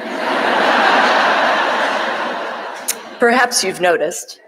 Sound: audience laughing

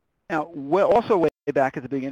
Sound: voiceover

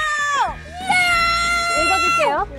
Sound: powerful voice

